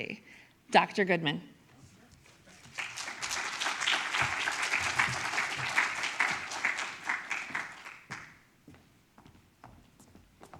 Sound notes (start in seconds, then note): 2.2 audience applauds